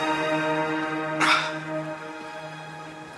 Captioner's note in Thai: เสียงถอนหายใจ